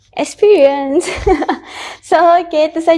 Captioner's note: laugh